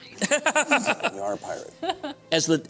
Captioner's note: laughter